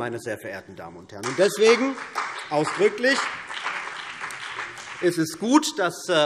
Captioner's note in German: Beifall CDU und BÜNDNIS 90/DIE GRÜNEN